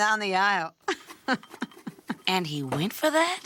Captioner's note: laughs